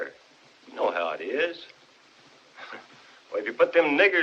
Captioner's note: chuckles